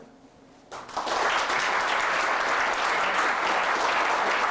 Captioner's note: applause